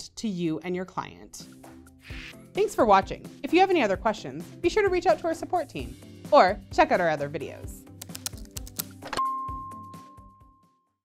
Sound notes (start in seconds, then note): 8.0 buttons clicking; 9.2 logo chiming